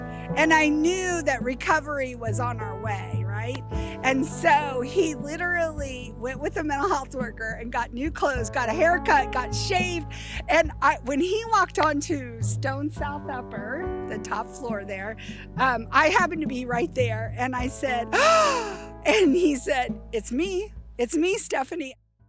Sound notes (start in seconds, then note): 18.1 gasp